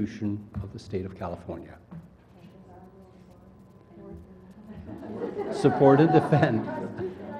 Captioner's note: laugh